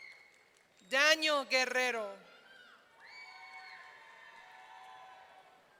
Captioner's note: audience cheering